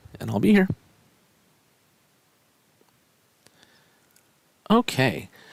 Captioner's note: no Speech Detected